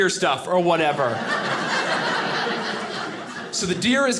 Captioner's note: audience laughing